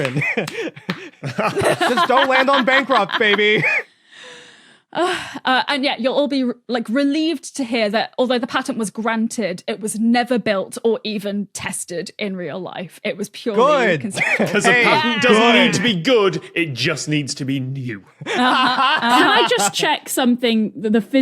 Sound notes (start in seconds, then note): 0.0 applauds; 0.0 giggles; 4.9 sighs